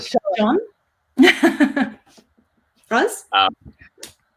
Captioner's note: chuckles